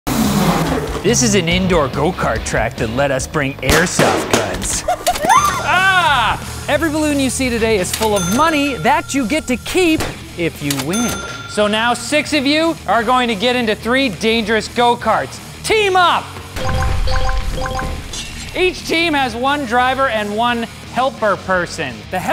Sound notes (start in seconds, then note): 0.0 go-karts revving; 5.1 cash register ding